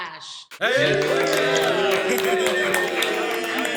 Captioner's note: cheers and applause